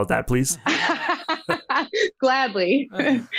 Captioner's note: all laughing